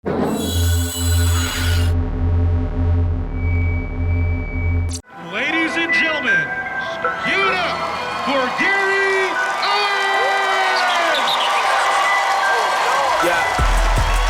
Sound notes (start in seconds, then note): 0.2 bright tone; 3.8 microphone droans; 11.8 cheers and applause